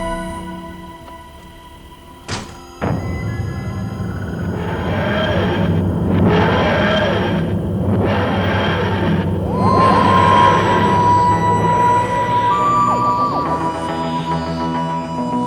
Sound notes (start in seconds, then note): 1.9 TARDIS takes off; 9.5 credit Music